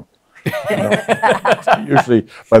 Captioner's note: laughs